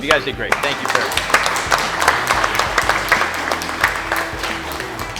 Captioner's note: applause